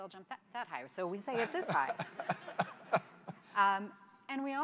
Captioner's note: laughter